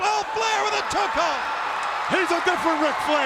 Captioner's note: crowd cheering